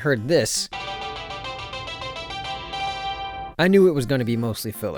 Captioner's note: lame ass ringtone